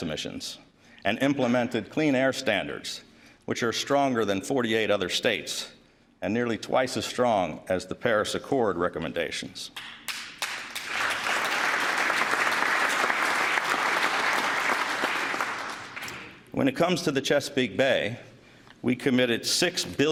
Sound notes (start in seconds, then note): 9.8 applause